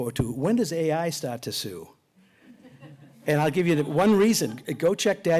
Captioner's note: laughter